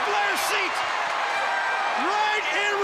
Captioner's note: crowd cheering